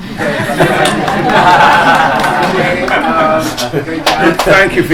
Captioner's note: laughter